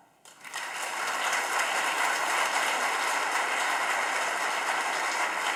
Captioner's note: audience applauding